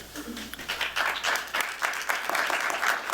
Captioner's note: applause